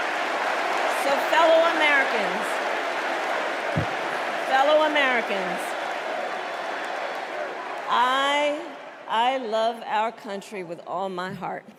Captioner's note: cheers and applause